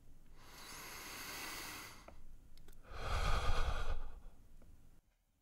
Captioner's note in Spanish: Suspiro